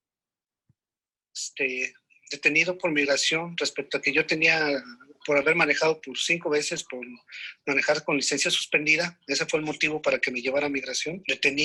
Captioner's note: speaking in Spanish language